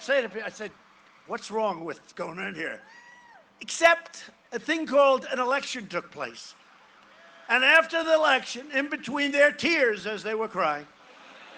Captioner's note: cheering and applause